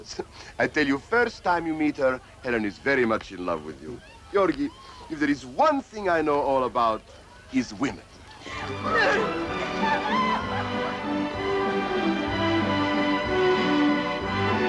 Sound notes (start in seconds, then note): 9.7 all chattering excitedly